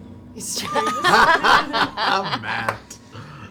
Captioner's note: all laugh